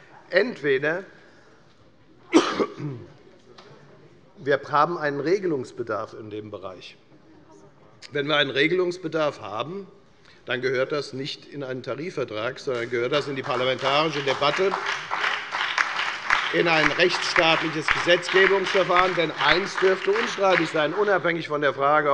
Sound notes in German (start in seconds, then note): 14.7 Beifall bei der FDP sowie bei Abgeordneten der SPD und der LINKEN